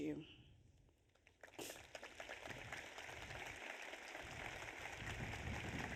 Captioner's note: audience applauds